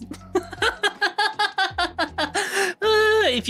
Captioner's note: laughs